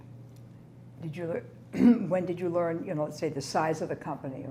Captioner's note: clears throat